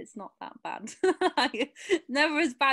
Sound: laughs

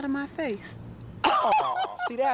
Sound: laughing lightly

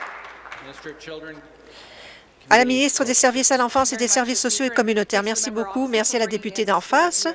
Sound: applause

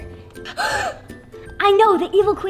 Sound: little girl gasps

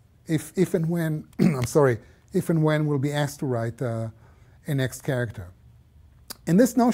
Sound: cough

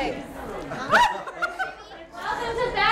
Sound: laughing

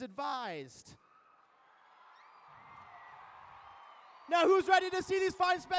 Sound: cheering

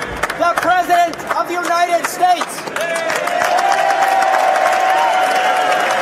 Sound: applause

